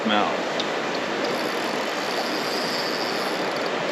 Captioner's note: reel cranking; water flowing